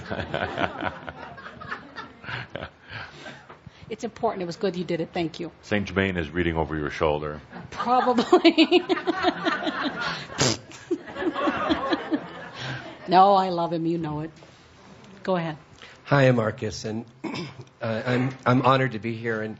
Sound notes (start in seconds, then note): 0.0 laughter from audience; 7.7 laughing; 10.3 makes a pbbtt noise